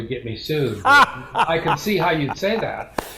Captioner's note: laughs